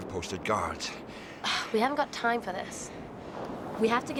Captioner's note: scoffs